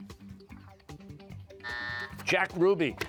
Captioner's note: buzzer